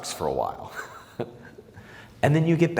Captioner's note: laughs